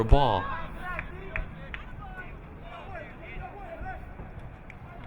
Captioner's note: crowd muttering